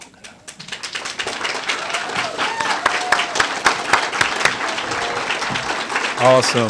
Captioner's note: applause